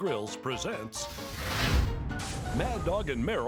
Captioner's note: flames sizzling